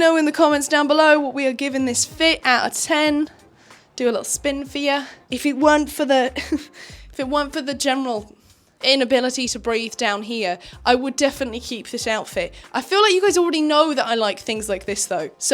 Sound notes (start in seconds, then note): 6.3 chuckles